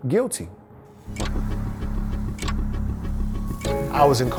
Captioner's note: daunting music; clock ticking